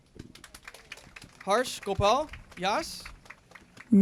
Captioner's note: applause